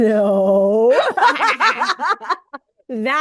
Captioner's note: group cackles